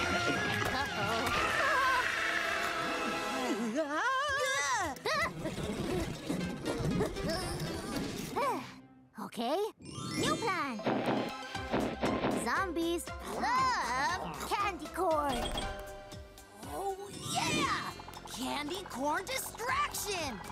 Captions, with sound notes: - Uh-oh. (groaning) (nervous whimpering) (panting) - Okay, new plan! Zombies love candy corn! - Oh, yeah! Candy corn distraction!